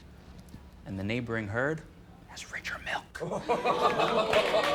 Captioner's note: whispers